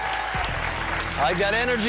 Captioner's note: cheers and applause